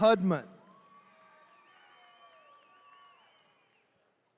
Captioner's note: attendees cheering